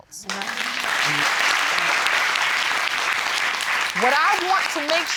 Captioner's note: audience applauding